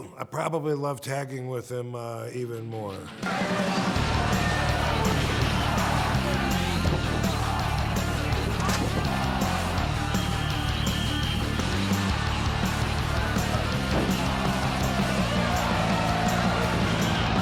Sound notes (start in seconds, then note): 3.8 energetic music; 8.0 audience cheering